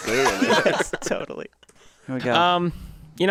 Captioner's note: all laughing